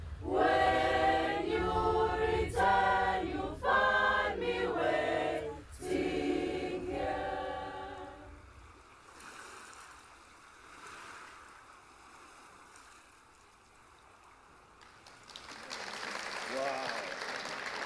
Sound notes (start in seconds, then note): 8.3 waves crashing gently; 14.8 audience applauding